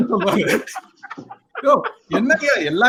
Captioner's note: laughs